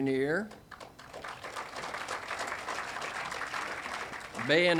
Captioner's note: audience applauding